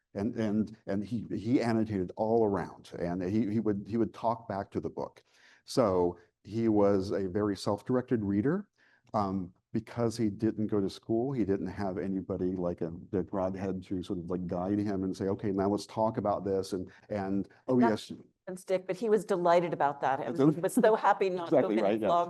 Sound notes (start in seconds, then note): 17.6 mic cuts out